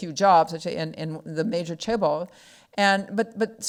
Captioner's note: speaking foreign language